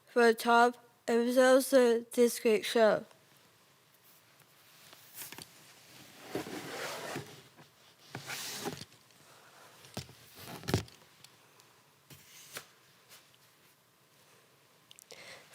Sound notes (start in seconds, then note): 4.0 rustling; 5.9 display scraping; 13.0 rustling